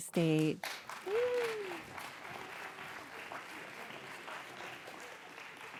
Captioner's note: audience applauds